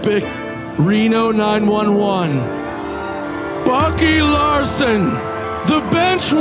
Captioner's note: audience cheering